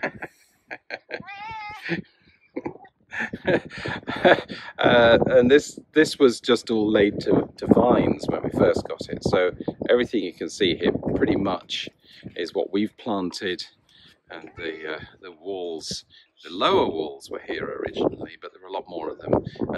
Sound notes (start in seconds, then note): 3.1 laughs